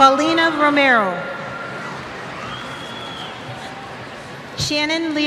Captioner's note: cheers